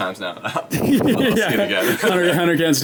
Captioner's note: laughs